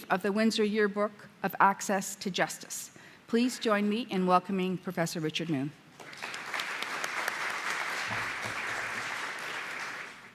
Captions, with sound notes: of the Windsor Yearbook of Access to Justice. Please join me in welcoming Professor Richard Moon. (audience applauds)